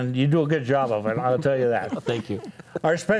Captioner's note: panelists laughing